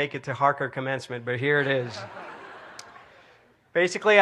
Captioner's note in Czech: smích